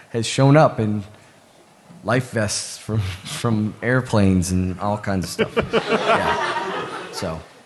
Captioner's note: laughter